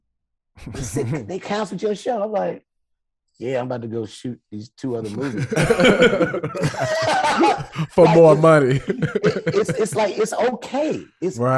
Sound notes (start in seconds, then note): 5.0 group laughing